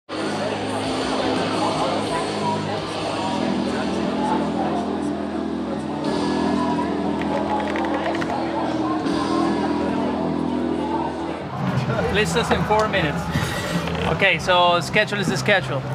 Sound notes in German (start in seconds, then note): 2.1 Stimmengewirr, E-Gitarren; 11.2 Sie sprechen englisch